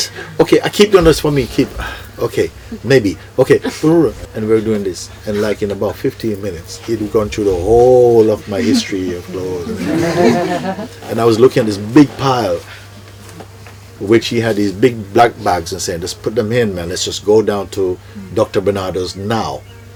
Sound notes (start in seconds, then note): 8.4 soft laughter